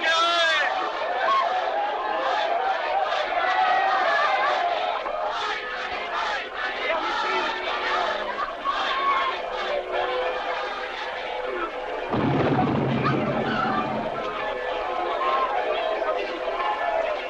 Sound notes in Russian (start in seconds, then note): 12.1 звуки отдаленных взрывов; 15.2 колокольный звон